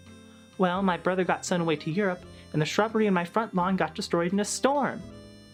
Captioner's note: in Carl's voice